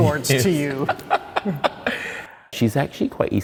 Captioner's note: laughter